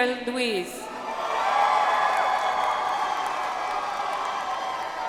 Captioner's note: audience applauds